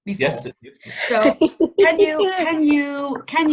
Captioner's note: laughing